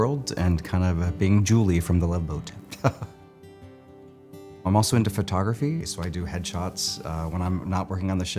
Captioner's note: laugh